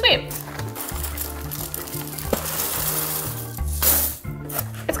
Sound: cereal crunches

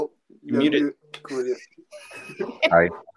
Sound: laughing

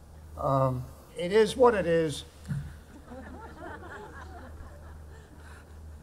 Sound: audience laughing

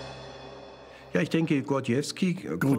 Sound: speaking German

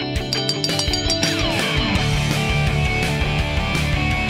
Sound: bell ringing

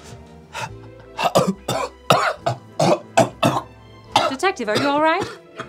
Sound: coughing and gasping

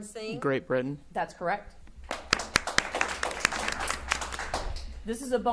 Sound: audience applauding

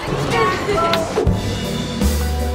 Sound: cheerful music; lip smacking

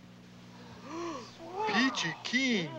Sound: group Gasps

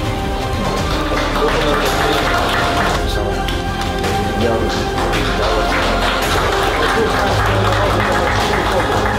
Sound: applause + music

